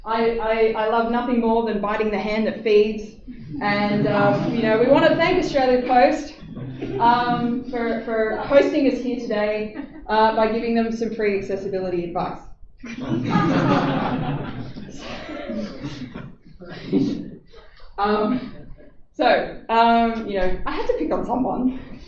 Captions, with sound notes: I love nothing more than biting the hand that feeds (*laughter*) and you know, we want to thank Australia Post for hosting us here today by giving them some free accessibility advice. [laughter] So, you know, I had to pick on someone!